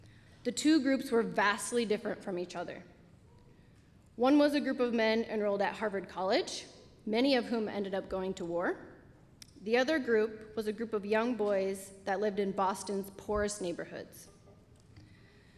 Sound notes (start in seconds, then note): none